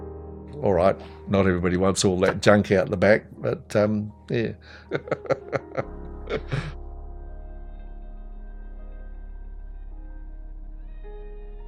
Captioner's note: laughs